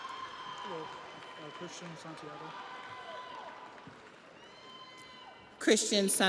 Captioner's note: audience applauds; audience cheers